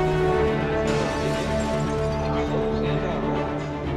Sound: glass shatters in background

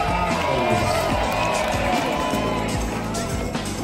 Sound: cheering

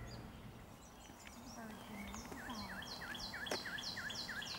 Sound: birds chirping

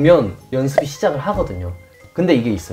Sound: scratches

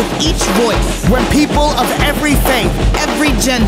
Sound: male Voice

